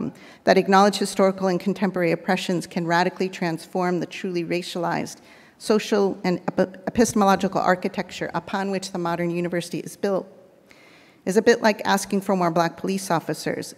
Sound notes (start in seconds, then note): none